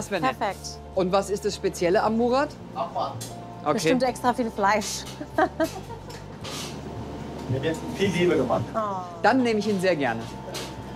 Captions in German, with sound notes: Das wär nett. - Perfekt. Und was ist das Spezielle am Murat? - Abwarten. (lacht:) Bestimmt extraviel Fleisch. Mit viel Liebe gemacht. - Oh. Dann nehm ich ihn sehr gerne.